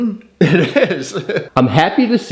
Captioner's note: laughing